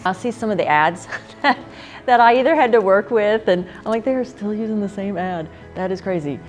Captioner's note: laugh